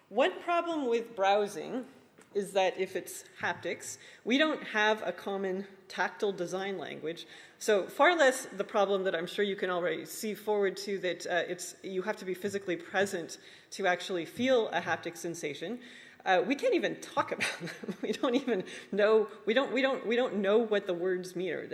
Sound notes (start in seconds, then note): 18.1 laughs